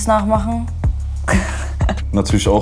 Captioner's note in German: Lachen